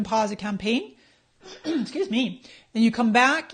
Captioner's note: clears throat